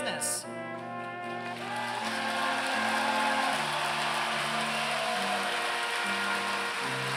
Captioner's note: applause